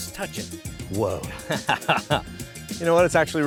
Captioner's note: laughs